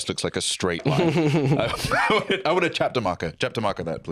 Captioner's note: chuckles